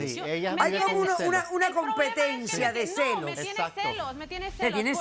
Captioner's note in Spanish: Hablan al unísono